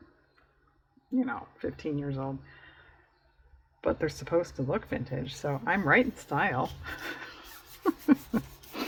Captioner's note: laughs